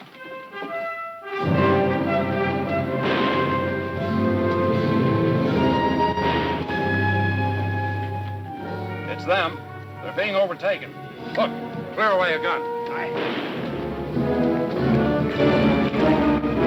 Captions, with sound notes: (dramatic music) (guns firing) - It's them. They're being overtaken. - Hook, clear away a gun. - Aye. (guns firing) (dramatic music)